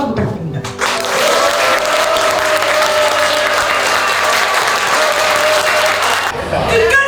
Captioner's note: applause